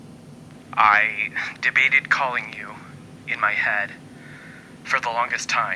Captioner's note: man on the phone